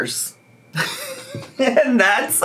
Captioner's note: laughing